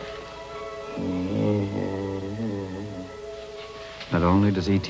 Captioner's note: groaning softly